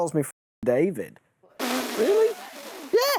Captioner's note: laughs